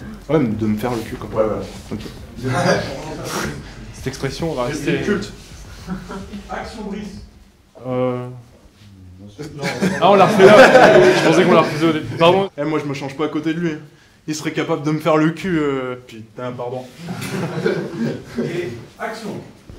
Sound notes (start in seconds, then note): 2.3 laughs; 3.1 sigh; 9.4 laughs; 17.0 laughs